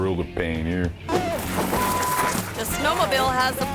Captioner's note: beep